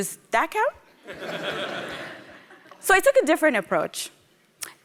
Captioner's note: laughter